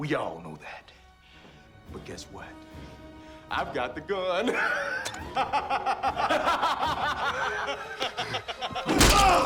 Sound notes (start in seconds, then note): 4.5 laughs; 5.2 Dalton laughs